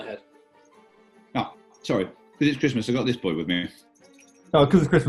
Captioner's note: sleigh bell rattles